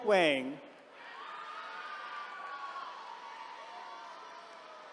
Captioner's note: attendees cheering